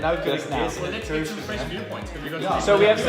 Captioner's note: group chatter